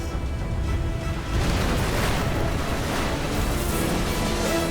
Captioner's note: explosion